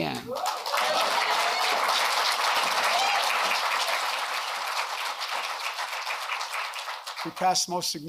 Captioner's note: applause